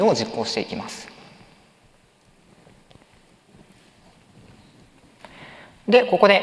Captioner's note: silence